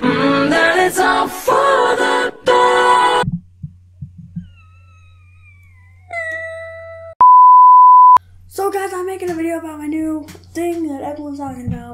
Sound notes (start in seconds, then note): 6.2 fake crying